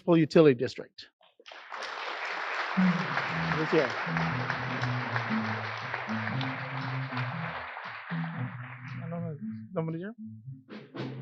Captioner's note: applause